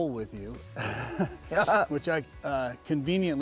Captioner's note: chuckles